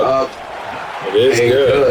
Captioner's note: crowd Noises